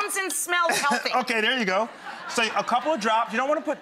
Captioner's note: crowd laughing